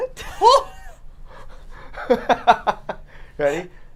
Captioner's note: laugh